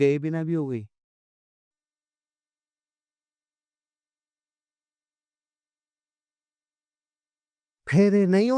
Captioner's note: silence